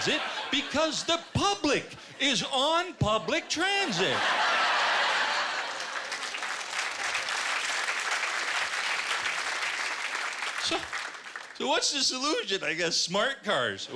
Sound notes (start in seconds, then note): 3.7 laughter; 6.6 applause